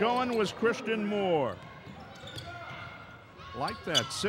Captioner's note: yelling; shoes squeaking